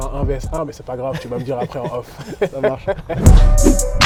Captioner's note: laughs